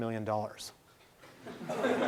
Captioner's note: laughing